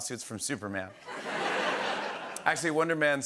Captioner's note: laughter